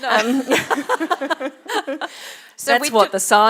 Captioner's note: laughter